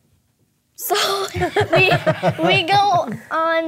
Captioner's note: hosts laughing